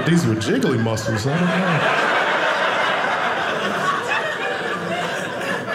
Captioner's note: audience laughing